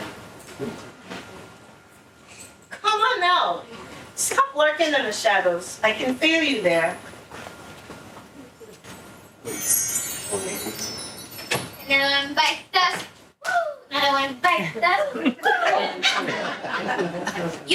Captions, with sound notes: Come on out. Stop lurking in the shadows. I can feel you there. (bell ringing) (audience laughing)